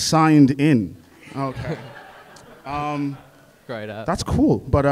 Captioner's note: audience laughs